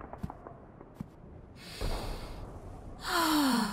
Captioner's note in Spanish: Inhala; Exhala